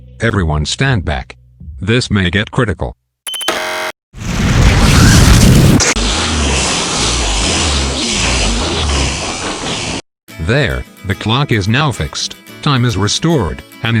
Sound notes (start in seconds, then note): 3.2 button pushes; 4.2 reverse zinging